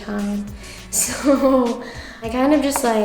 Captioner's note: laughs